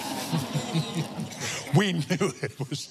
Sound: laughs

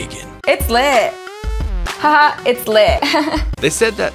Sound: chuckles

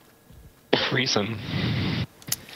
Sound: voiceover

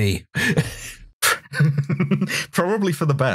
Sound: laughter

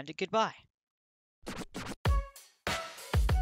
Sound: record scratch; upbeat music playing

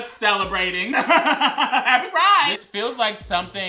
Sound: laughs

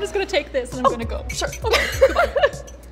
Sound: laughs

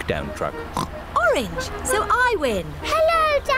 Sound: oinks

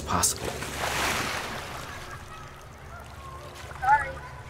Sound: water splashes

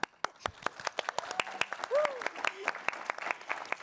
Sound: audience applauds

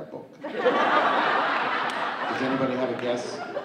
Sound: audience laughing

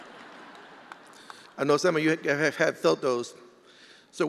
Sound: attendees laughing

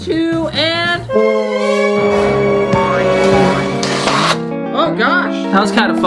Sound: deflating sounds

